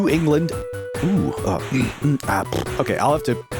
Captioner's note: sputtering